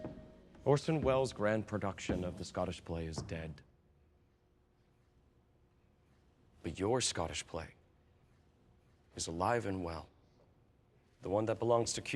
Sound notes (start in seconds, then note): none